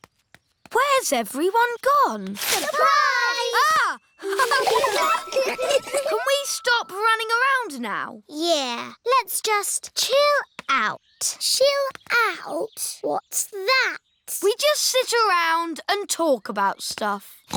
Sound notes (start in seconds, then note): 3.6 gasps; 4.2 all laughing